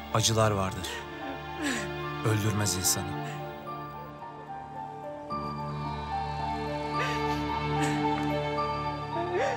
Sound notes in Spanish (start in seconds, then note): 6.9 Llora